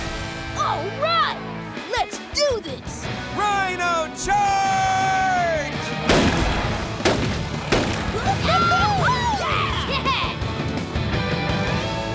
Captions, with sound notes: All right, let's do this! Rhino charge! [cheering]